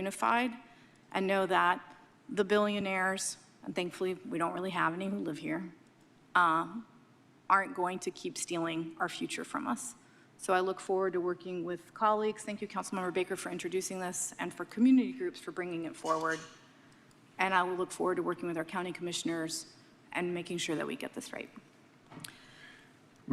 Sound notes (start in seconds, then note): none